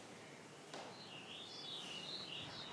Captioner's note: birdsong